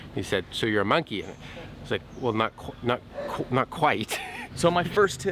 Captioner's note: laughs